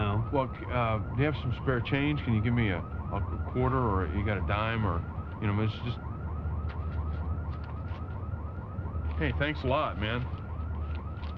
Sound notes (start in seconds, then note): none